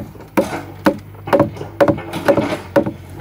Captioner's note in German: Klackern, Scheppern im Hintergrund